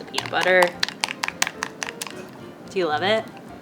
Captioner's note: spoon clinks